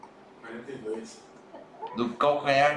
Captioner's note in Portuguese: risos